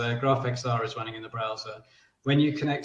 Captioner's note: none